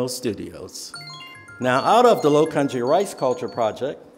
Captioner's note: phone tinkling